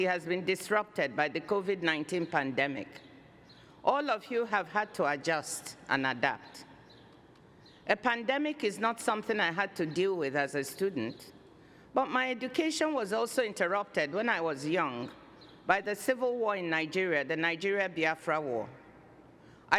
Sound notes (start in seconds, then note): none